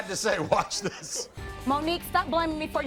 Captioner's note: chuckling